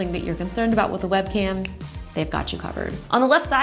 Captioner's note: snaps